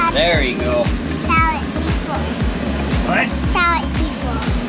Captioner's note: exclaiming